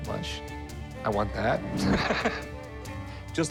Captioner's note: laughs